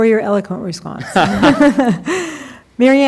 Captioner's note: laughing